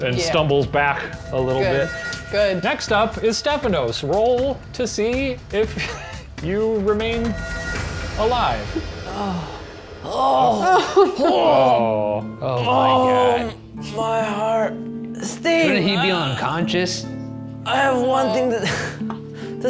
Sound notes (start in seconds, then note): 5.8 laughs; 9.0 groaning; 10.6 others laughing; 19.1 laughs